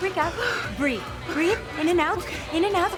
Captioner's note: hyperventilates